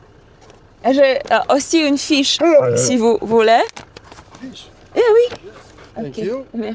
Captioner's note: both speaking in foreign language